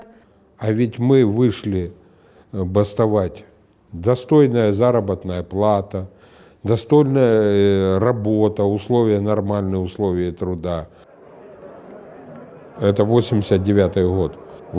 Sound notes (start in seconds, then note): 10.8 quiet crowd noise